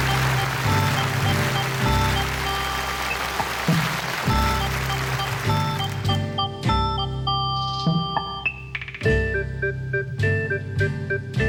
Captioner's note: applause